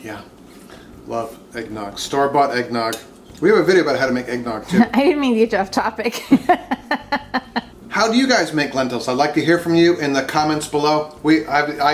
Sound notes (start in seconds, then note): 6.1 laughing